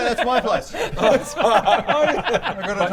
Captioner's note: outrageous laughter